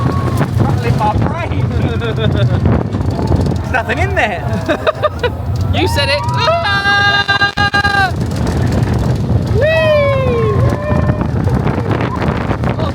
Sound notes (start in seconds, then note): 1.5 chuckling; 5.9 laughing; 8.5 yelling